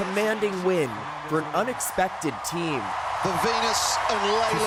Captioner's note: cheers and Applause